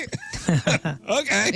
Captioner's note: laughing